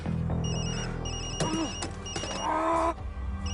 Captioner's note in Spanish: Suena el celular; Quejidos